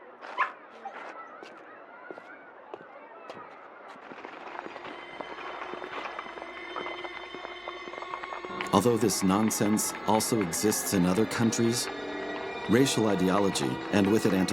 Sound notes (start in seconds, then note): 0.2 steps clattering; 4.7 ominous music